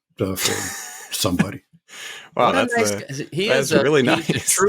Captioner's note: laughs